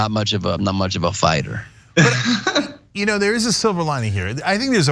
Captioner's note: laugh